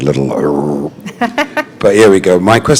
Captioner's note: chuckle